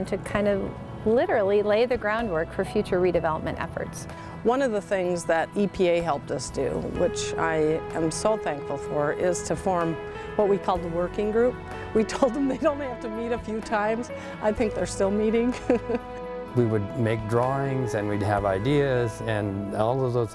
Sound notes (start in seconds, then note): 15.4 laughs